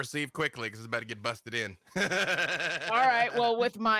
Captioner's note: laughs